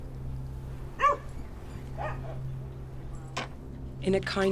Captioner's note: dog barking